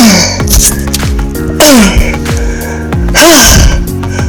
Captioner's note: moaning